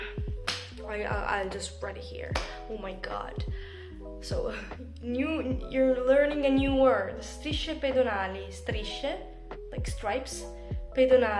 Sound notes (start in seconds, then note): 1.0 in English